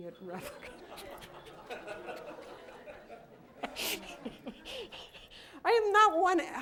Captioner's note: laughter